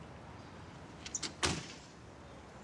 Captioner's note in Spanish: sonido al cerrar la puerta